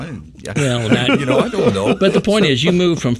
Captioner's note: person laughing